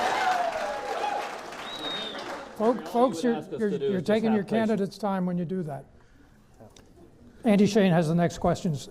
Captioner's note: clapping